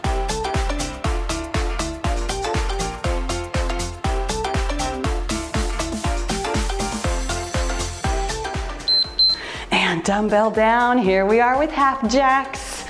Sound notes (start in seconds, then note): 9.2 timer beeps